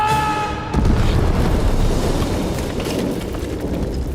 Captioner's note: yelling; explosion